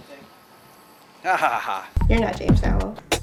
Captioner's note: laughs